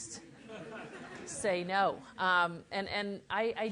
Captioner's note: laugh